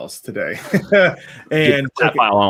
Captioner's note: chuckling